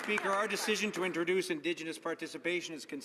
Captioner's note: applause